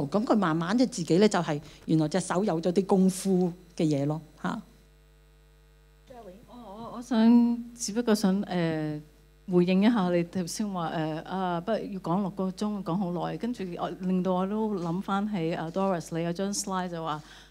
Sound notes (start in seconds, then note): 7.8 Cantonese